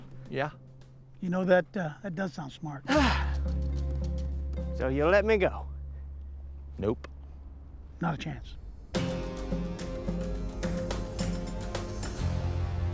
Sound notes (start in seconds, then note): 2.8 sighs; 8.8 dramatic music